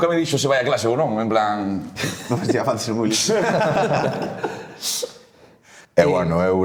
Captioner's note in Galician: risas